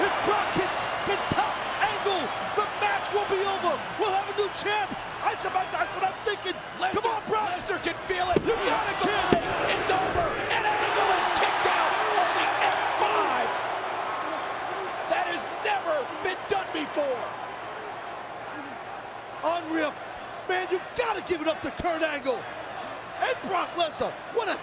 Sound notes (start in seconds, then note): 13.9 audience cheering and clapping; 18.1 audience cheering and clapping